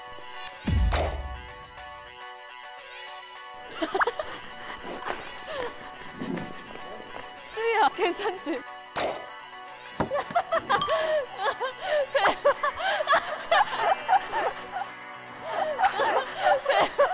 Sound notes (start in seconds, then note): 10.9 is laughing out loud